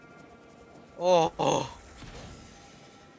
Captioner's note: sigh of relief